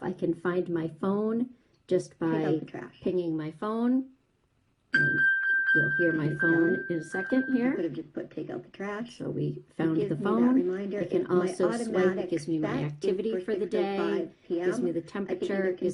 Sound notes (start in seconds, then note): 4.9 high-pitched pinging